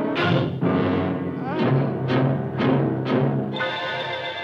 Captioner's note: moan of pain